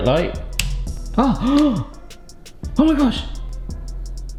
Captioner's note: switch clicks; gasps